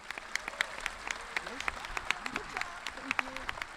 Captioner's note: audience clapping